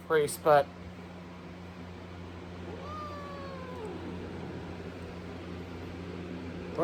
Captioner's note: Caprice yowls